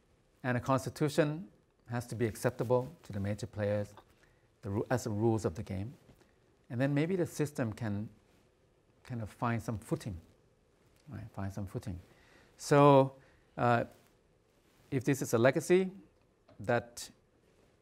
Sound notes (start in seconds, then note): none